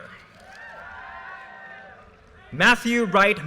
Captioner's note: audience cheers and applause